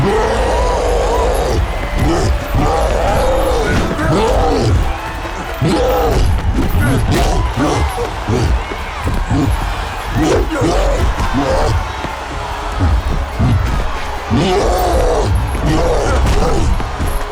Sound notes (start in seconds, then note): 0.0 cyclops growling; 14.1 growls